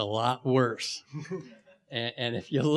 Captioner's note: laughing